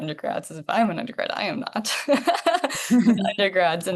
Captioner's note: laughs